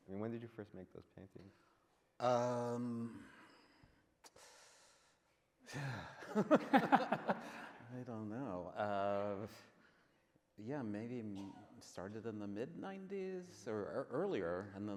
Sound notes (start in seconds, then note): 6.2 men laughing